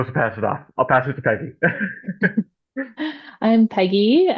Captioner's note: laughs